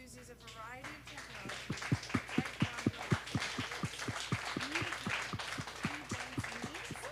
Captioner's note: audience applause